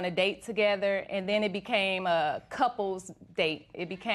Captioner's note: none